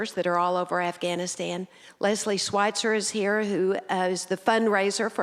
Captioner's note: none